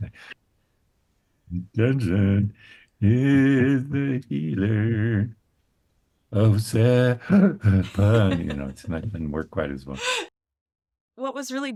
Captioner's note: breath